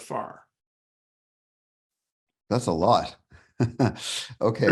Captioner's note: laughs